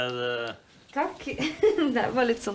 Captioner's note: laughing